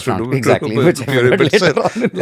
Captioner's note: chuckles